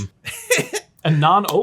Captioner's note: laughing